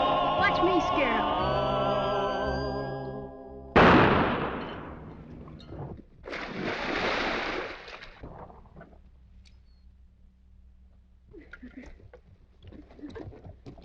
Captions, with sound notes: Watch me scare them. [ GUNSHOT ] [ WATER SPLASHING ] [ MARY AND DICK CHUCKLES ]